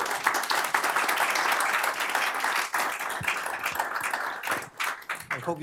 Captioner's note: applause